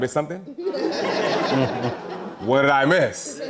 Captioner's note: audience laughing